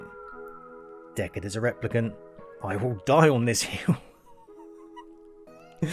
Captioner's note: laughs